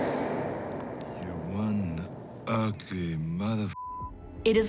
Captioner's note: Yautja growling; beeping